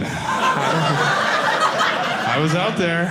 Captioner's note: audience laughing